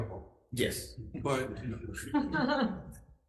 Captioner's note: crowd laughs